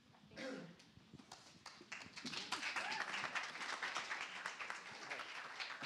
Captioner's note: applause